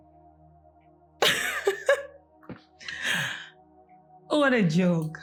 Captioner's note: laughs